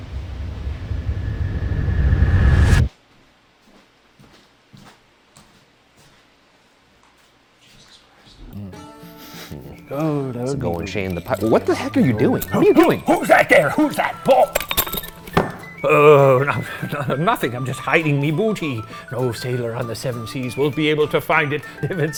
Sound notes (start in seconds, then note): 0.0 deep ominous music; 4.1 footsteps padding; 7.7 sniffing; 14.4 metal clanking